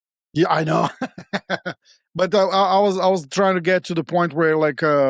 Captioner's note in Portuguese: risos